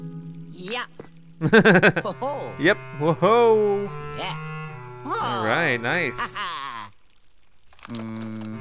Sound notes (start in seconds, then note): 1.4 laughter; 2.7 voiceover; 5.5 voiceover